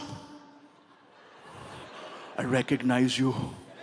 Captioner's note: audience laughs